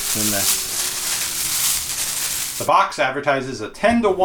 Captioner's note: leaves rustling